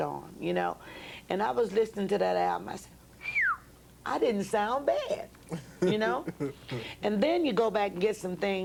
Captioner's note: whistles